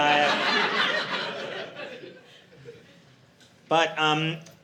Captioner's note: audience laughing